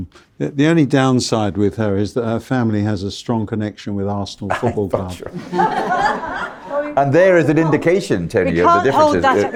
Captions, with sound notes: - The only downside with her is that her family has a strong connection with Arsenal football. (laughing) - And there is an indication, Tony, of the differences. - We can't hold that.